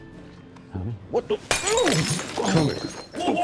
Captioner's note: glass shatters